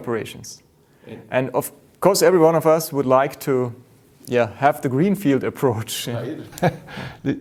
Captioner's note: laughs